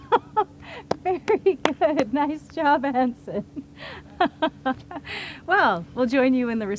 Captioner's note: laughs